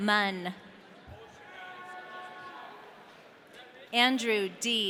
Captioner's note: audience cheering